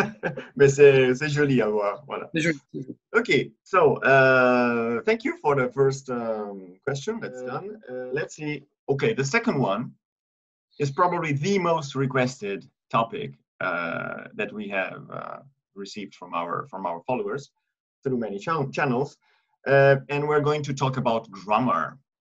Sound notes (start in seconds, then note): 3.7 in English